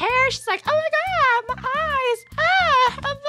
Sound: mockingly

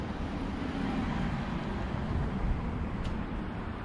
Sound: cars whooshing

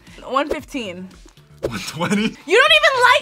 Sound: laughs

